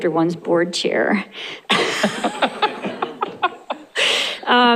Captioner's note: laughter